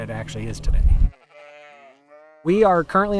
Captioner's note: sheep baaing